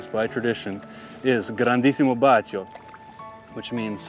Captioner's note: gondolier speaks in Italian